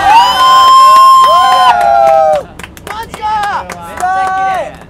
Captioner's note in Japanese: 拍手